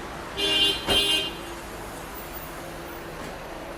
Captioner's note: car horn honking